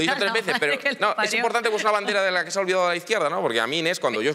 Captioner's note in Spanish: riendo